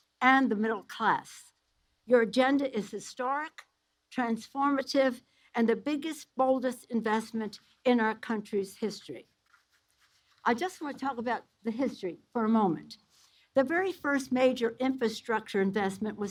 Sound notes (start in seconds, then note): none